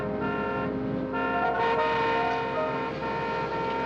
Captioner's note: cars honking